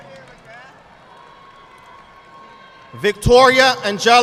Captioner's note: audience clapping